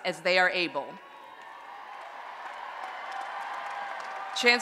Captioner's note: applause and Cheering